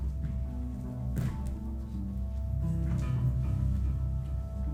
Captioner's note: footsteps thumping